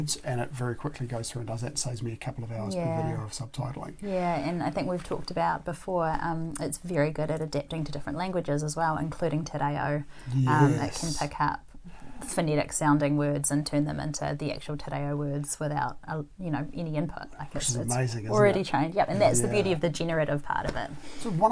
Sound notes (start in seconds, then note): 9.9 Maori language